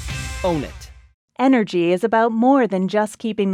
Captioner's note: voiceover